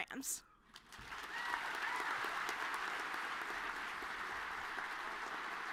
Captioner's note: audience cheering and clapping